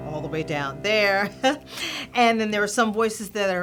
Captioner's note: laughter